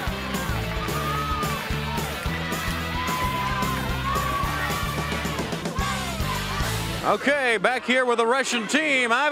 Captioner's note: crowd cheering